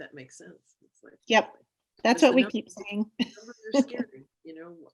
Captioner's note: laughs